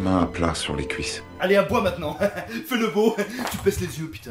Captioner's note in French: rires